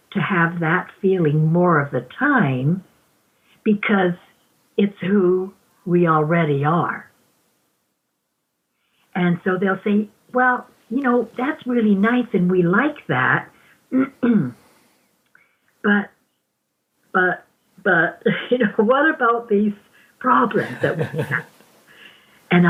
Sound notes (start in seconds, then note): 13.9 clears throat; 16.8 chuckles